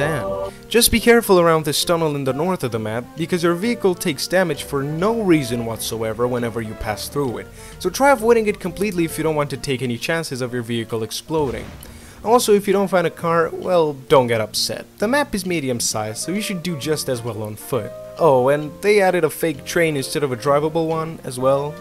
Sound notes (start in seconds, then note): 7.5 loud breath